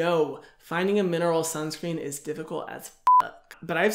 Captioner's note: beeps